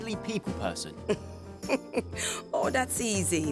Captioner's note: chucking